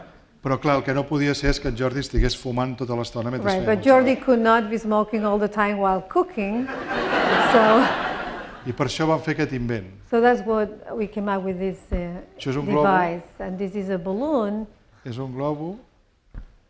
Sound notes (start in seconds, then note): 0.7 speaking spanish; 6.6 laughter; 15.6 speaking spanish